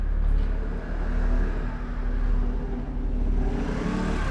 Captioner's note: sonido motocicleta